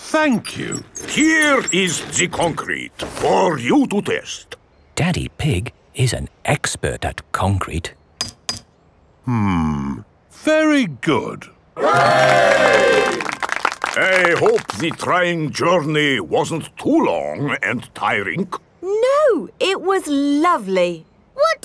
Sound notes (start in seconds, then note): 11.9 clapping